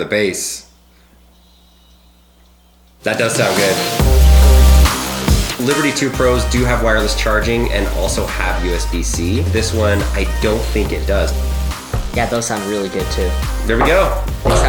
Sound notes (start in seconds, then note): 1.6 silence; 4.3 electronic music